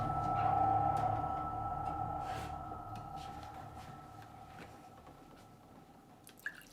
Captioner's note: milk pouring; rustling in kitchen